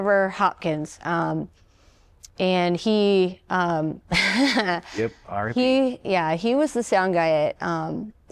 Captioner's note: laughter